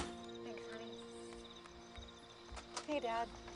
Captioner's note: door opens